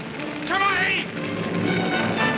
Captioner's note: speaking native language